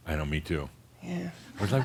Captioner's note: some chuckles